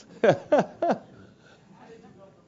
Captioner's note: laugh